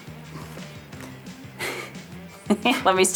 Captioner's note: laughs